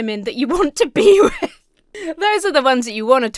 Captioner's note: laughs